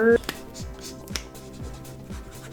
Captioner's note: marker cap clicks off